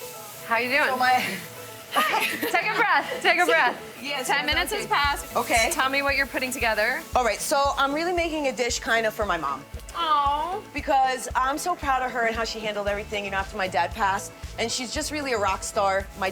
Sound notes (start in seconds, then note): 1.9 laughs